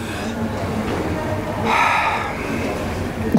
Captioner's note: breathes heavily